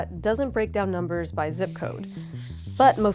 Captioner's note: marker swishing